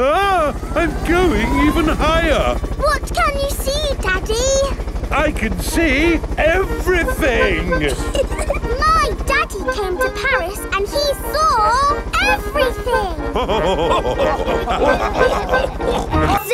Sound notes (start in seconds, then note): 8.3 chuckles; 13.2 all laughing